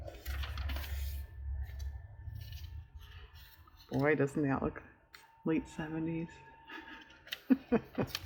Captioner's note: laughs